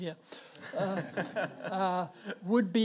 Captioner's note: audience laughs